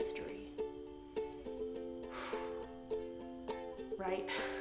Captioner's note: exhaling loudly; laughing